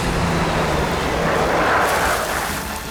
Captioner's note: tire screeching